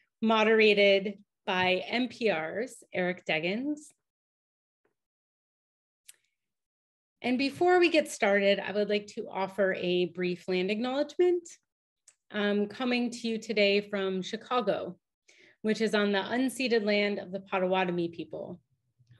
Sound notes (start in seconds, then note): none